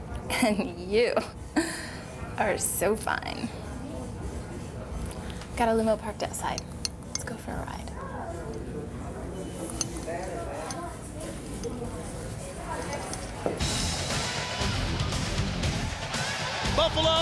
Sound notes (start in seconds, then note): 9.3 audience chattering; 13.6 upbeat music